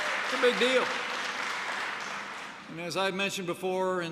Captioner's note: applause